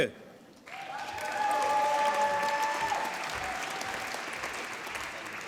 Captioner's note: applause